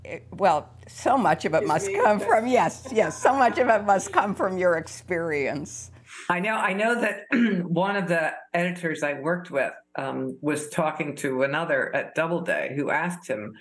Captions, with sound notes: Well, so much of it must come from. -Me? -Yes, yes. [laughter] So much of it must come from your experience. -I know. I know that one of the editors I worked with was talking to another at Doubleday who asked him,